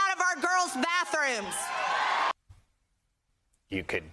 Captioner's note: applause